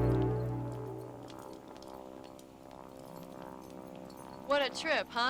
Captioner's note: airplane rumbling